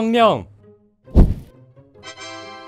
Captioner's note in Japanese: ふわっー